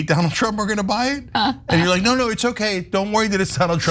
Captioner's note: laugh